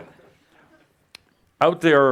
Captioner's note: laughter